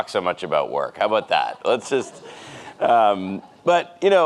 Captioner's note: audience laughs